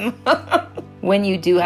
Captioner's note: laughs